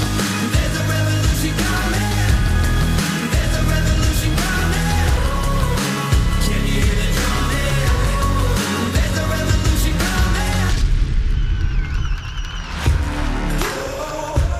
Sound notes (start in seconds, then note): 10.5 slam; 10.7 cheering and applause